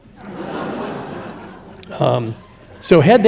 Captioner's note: audience laughing